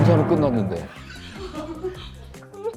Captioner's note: laughter